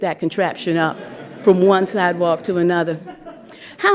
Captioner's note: laughter